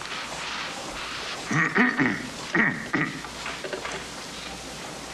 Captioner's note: coughing